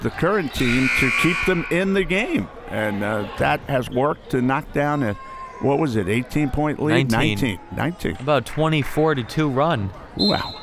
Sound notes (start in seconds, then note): 0.6 buzzer; 10.2 whistle